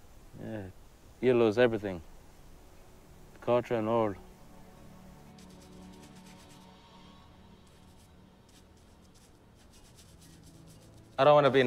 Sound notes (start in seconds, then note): 5.2 brush Scratching; 10.7 gentle music